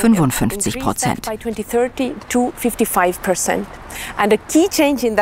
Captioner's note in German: Sie spricht weiter auf Englisch